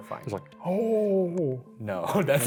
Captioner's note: groans